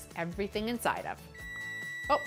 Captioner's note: oven beeping